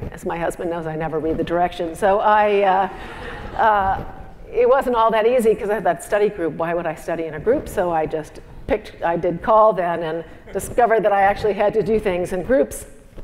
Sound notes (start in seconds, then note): 2.3 laugh